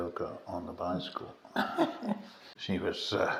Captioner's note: laughter